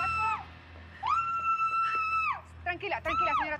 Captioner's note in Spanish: gritos